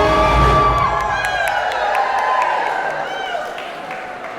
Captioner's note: audience cheering